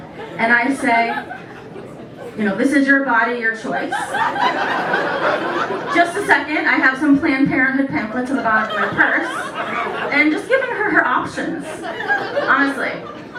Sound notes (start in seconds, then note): 3.8 laughter; 9.2 laughter